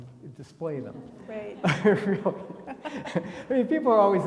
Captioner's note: everybody laughing